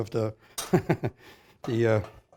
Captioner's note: chuckles